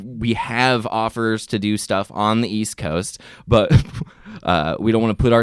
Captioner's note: chuckles